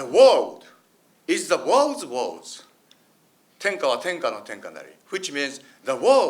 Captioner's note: speaks in foreign language